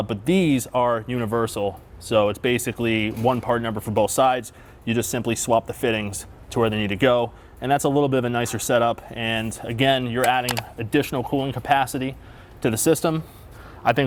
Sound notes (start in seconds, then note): 10.2 picture clicks